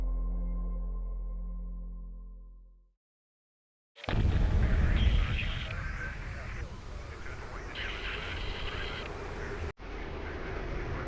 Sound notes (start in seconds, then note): 4.1 radio chattering; 8.3 tense music